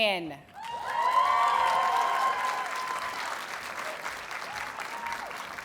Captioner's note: audience cheers and applauds